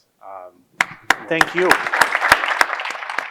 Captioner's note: audience applauding